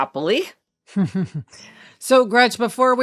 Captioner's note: laughing